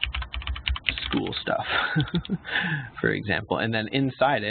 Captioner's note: laughs